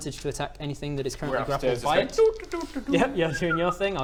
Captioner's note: doo doo doo doo doo